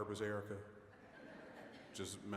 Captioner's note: audience laughing